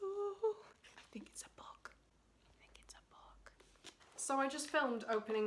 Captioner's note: whispering